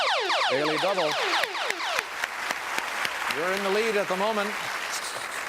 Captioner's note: applause